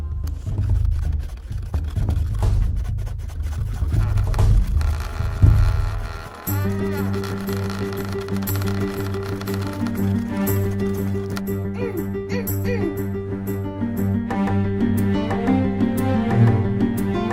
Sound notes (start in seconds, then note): 3.6 hull creaks